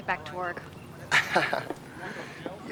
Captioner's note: chuckles